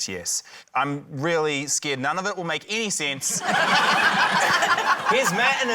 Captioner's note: laughter